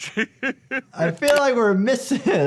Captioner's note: chuckling